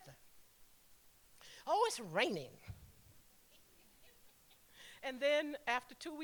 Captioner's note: laughing